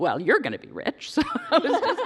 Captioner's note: laughter